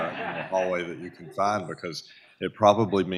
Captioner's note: audience laughs